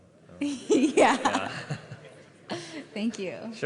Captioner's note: laughter